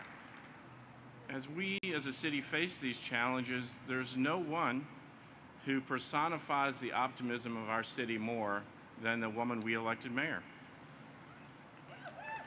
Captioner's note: applause